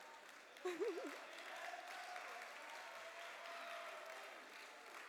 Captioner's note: applause